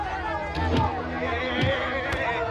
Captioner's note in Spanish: Golpes